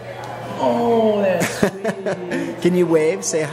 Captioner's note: laughs